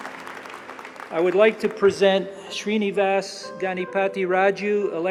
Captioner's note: applause